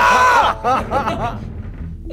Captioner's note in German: Lachen